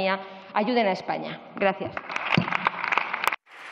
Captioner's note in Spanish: Aplausos